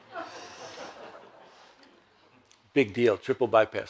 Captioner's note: audience laughs gently